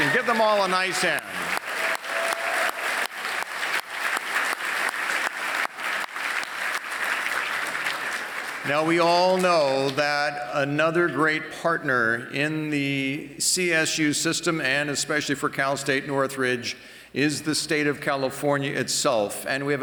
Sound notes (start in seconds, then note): 1.7 applause